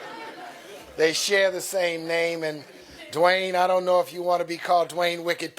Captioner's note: laughter